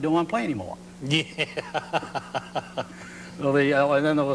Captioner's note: laughs